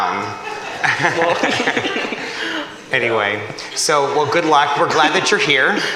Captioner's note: laughter